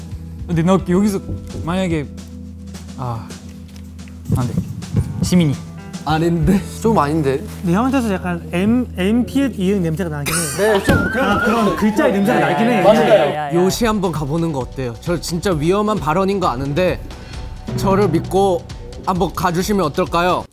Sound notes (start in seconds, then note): 4.3 heart beating at 120 bpm